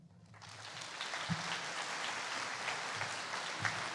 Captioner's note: applauding